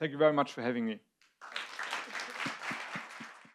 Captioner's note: audience applauds